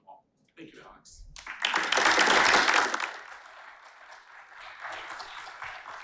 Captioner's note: applause